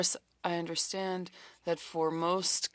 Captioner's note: speaking French